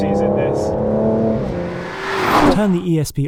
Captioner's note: car zooming